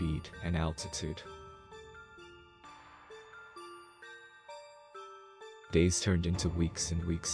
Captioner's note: voice-over